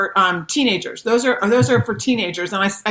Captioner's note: chuckles